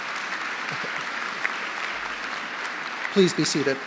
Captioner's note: applause